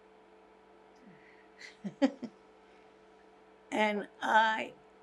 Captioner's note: laughing